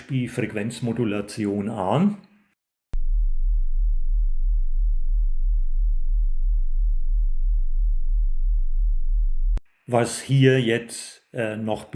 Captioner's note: modulated signal